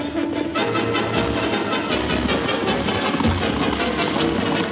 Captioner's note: hooves thundering